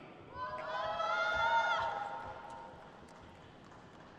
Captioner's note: crowd cheers